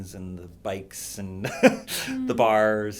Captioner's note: laughs